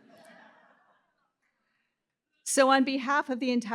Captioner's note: laughter